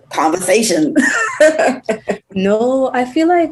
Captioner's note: laughs